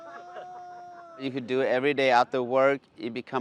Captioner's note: people laughing